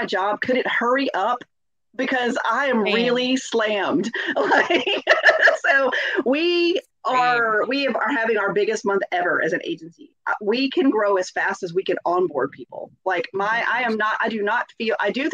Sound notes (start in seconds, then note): 4.1 laughs